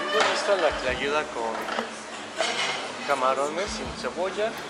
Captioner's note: speaking Spanish